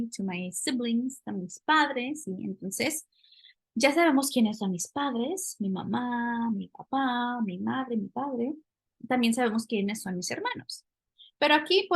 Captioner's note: speaking spanish